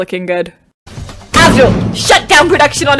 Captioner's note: slam